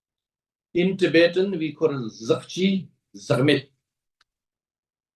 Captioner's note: tibetan